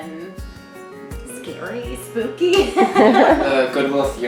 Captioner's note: laughs